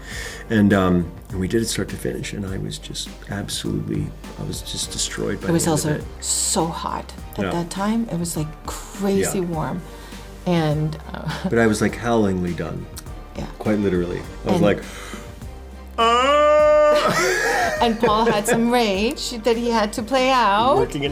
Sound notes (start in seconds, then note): 15.9 moans